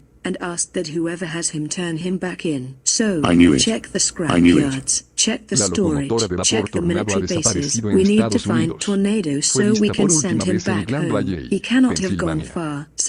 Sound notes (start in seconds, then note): 5.4 speaking Spanish